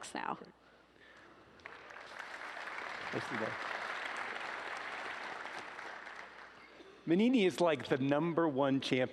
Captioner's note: applause